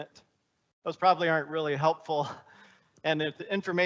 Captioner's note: chuckling